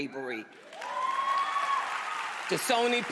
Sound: cheers, applause

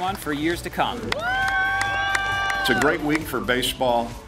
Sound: crowd applauding

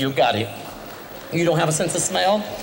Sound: soft applause

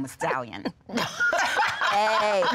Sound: laughing

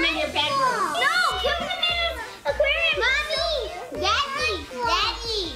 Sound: chattering together

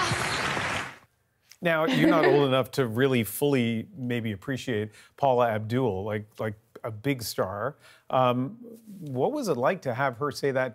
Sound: applause

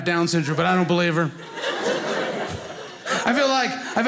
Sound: audience laughing

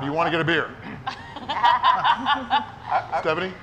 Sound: people laughing

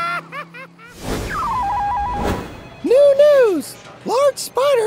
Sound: cackling laughter; newsroom sounds

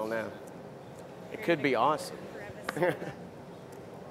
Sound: laughter

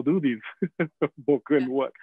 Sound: laughing

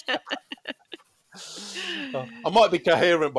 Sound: laughter

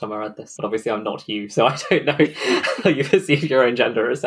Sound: laughing

